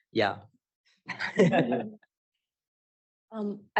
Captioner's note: laughter